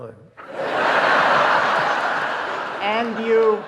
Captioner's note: audience laughing